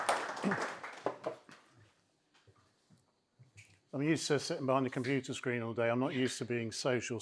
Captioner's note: applause